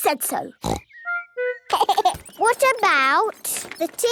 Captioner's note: giggling